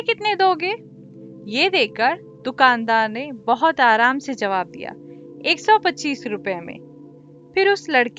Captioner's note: The Merchant in calm voice